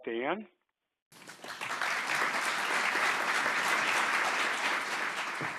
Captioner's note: audience applauding